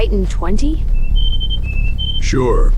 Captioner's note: classic Bird Twittering